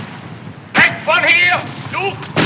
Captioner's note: shouting in german